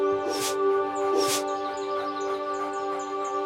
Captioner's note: woofs